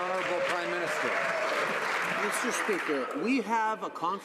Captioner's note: some Applause